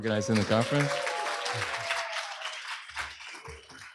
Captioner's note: applause